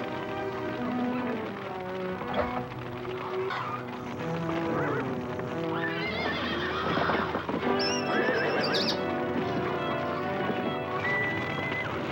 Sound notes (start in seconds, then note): 0.7 fire crackling; 0.7 horses whinnying